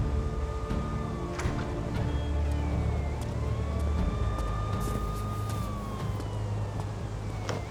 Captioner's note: sirens in the distance